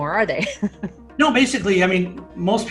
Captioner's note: laughing